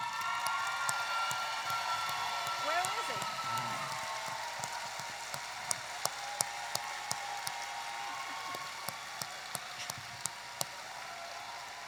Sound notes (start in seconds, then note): 0.2 audience applauding and cheering; 5.0 audience applauding and cheering continues